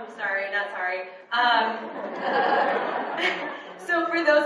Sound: audience laughs

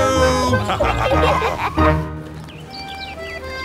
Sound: laughter

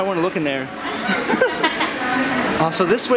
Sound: laughter

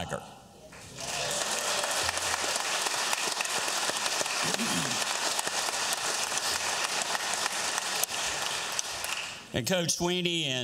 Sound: cheers and applause

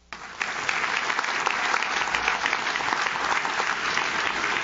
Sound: audience claps

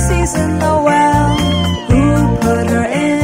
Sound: cat meowing

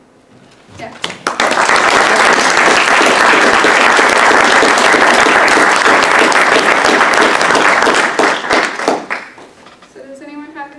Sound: applause

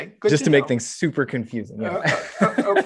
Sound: laughs

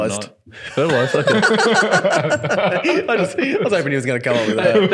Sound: laughing

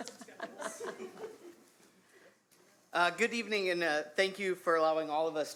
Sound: laughter

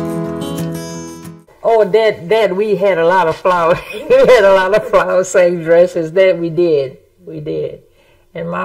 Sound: upbeat music begins; upbeat music fades; laughs

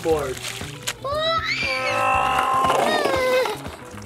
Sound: squeals

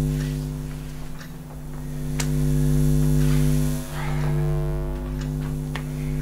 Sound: buzzing

